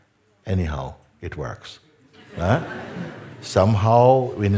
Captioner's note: laughter